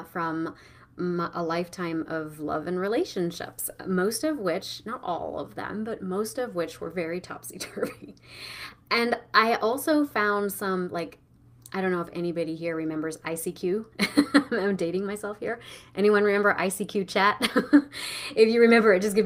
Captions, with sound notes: from my a lifetime of love and relationships, most of which, not all of them, but most of which were very topsy-turvy. (laughing) And I also found some, like, I don't know if anybody here remembers ICQ, (laughing) I'm dating myself here, anyone remember ICQ Chat? (laughing) If you remember it,